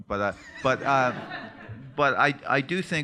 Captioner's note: laughter